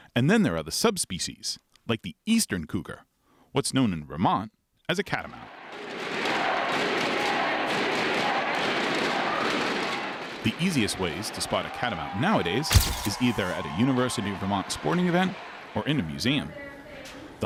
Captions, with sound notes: And then there are the subspecies, like the eastern cougar, what's known in Vermont as a catamount. (crowd cheers) The easiest ways to spot a catamount nowadays is either at a University of Vermont sporting event or in a museum.